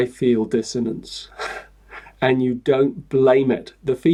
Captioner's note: chuckles